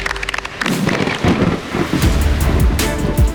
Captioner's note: all applauding; thunder rumbling